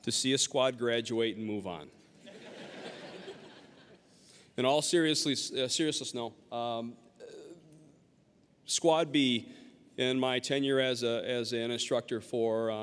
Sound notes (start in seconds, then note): 2.2 audience laughing